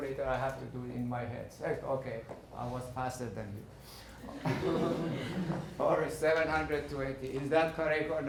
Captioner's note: laughing